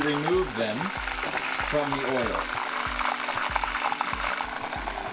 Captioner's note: frying oil